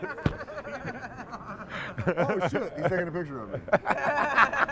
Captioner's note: laughter